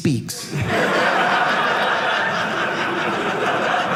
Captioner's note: audience laughing